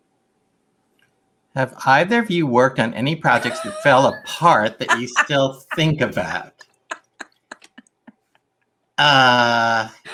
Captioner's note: laughter